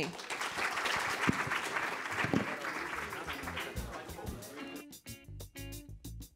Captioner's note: applause; jazz music